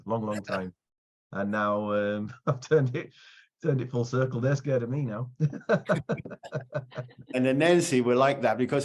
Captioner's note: laughing